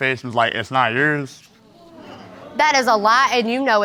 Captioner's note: audience exclaims